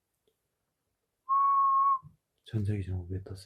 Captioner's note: whistling